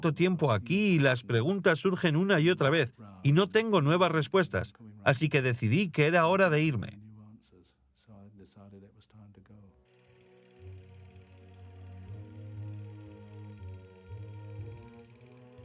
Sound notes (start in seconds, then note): 9.9 slow music; 9.9 projector whirring